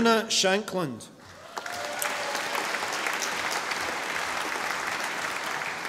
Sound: audience applauding

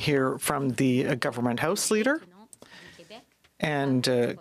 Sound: speaking french

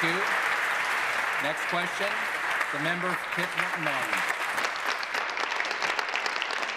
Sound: applause

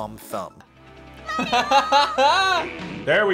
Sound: laughs

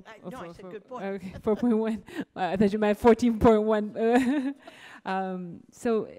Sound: laughing

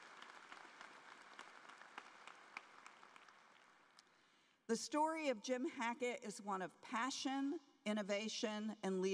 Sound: applause

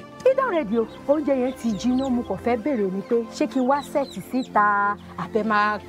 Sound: woman speaking in foreign language

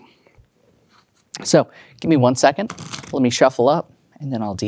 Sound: cards riffling

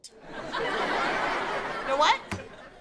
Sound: laughing

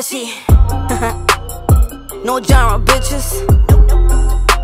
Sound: laugh

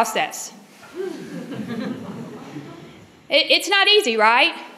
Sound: laughter

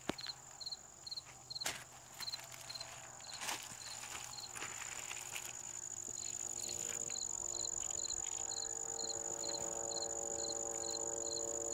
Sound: sound of engine in background

